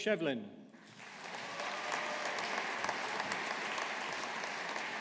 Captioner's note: audience applauding